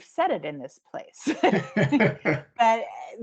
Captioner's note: laughing